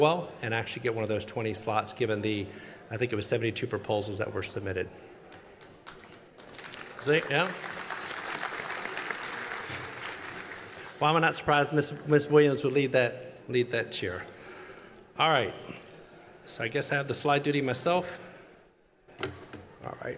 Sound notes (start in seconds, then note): 5.6 applause